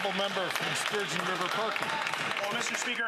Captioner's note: some Applause